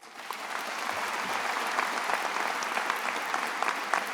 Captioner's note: attendees applauding